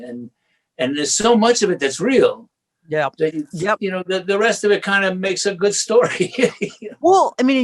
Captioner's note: laughs